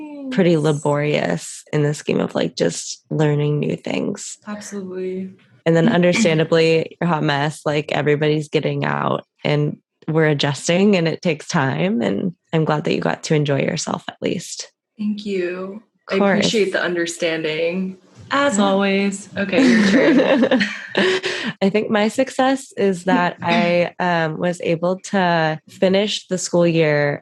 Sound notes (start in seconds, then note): 19.5 laughter